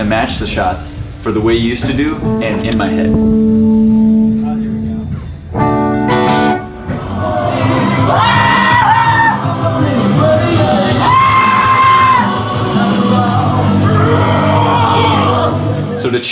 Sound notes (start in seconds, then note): 2.2 guitar rings out; 5.8 guitar plays; 8.4 band screaming